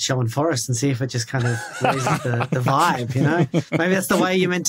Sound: laughs

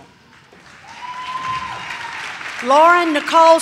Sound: audience claps

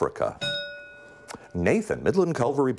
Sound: bell rings

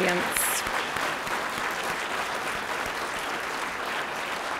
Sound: applause

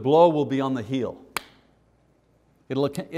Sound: smack

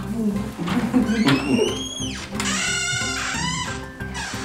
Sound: door squeaking

